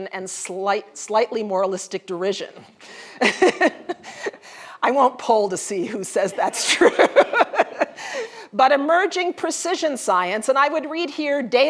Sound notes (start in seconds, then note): 3.4 audience laughs; 6.4 audience laughs